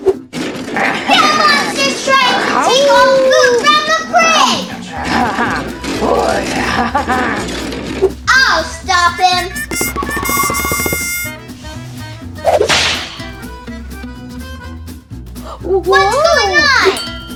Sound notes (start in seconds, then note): 4.1 laughs; 12.6 snap